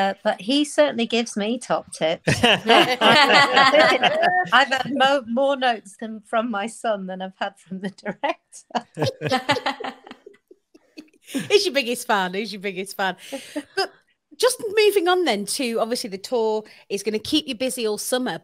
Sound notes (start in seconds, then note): 2.2 group laughing; 8.8 group laughing; 8.8 laughs